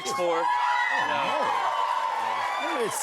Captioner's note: cheers and applause